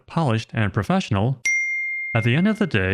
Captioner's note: ting sound